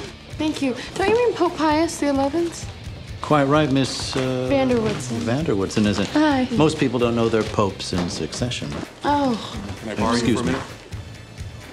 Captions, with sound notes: - Oh, thank you. Don't you mean Pope Pius the Eleventh? - Quite right, Miss-- - Van der Woodsen. - Van der Woodsen is it? - Hi. (giggles) - Most people don't know their Pope's in succession. (sighs) - Excuse me.